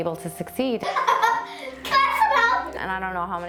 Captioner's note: laughs